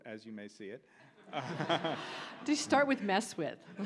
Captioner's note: audience laughs